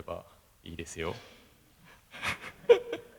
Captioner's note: laugh